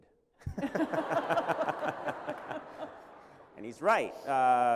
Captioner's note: laughter